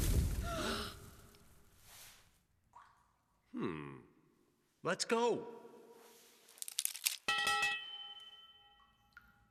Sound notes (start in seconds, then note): 0.2 all gasp; 6.6 metal clatters